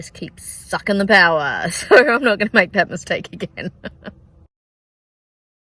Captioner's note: laughing